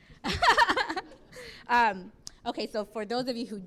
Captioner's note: laughs